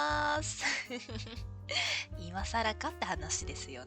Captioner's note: laughs